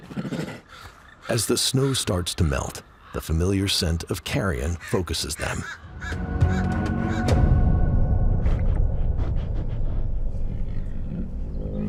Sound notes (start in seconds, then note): 5.6 birds squawking; 5.9 dramatic music; 8.4 bear sniffs